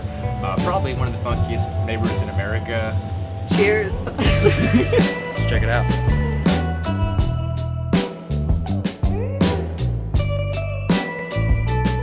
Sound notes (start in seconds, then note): 4.0 laughing; 6.7 upbeat music